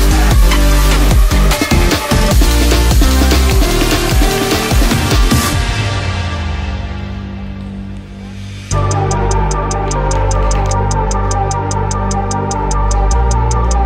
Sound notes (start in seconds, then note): 3.4 audience cheering and clapping; 9.9 audience clapping